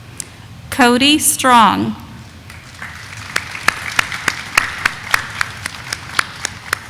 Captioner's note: audience applauding